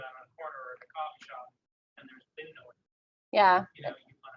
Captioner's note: audio drops